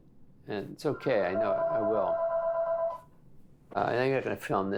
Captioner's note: phone ringing